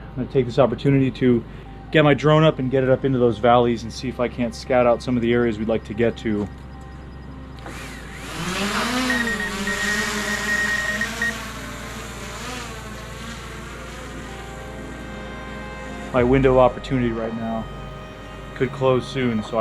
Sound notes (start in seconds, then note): 8.6 drone buzzing; 14.8 thoughtful music